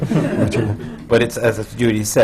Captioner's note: laughter